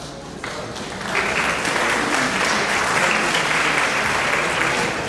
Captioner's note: audience applauds